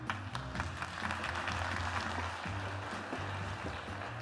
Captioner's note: applause